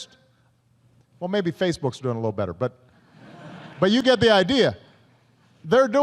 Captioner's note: laughter